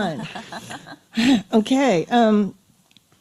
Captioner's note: sighs